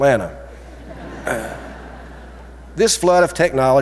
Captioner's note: audience chuckling